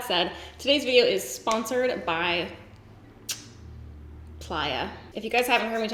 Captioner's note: kiss